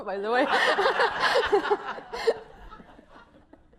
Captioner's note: laughter